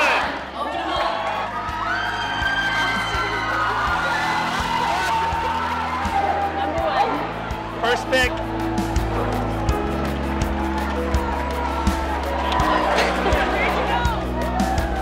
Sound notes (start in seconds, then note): 1.8 cheering; 9.9 cheering